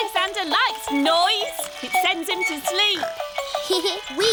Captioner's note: giggles